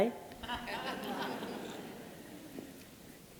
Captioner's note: laughter